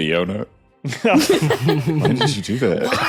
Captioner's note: group laughing